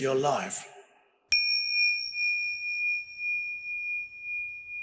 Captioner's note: bell chiming